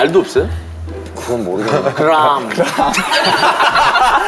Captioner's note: in semi-British accent